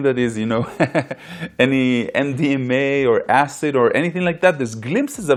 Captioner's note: laughs